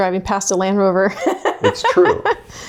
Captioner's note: laughs